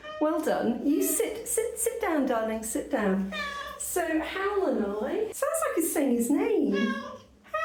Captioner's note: meow